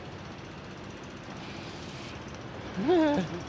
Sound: inhales sharply; whimpers

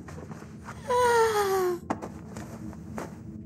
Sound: sighs

